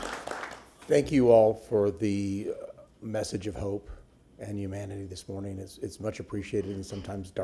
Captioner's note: applause